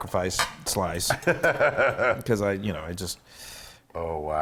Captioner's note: laugh